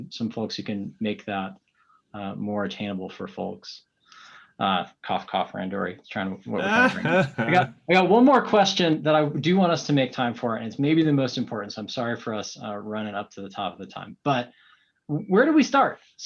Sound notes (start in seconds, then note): 6.5 laughing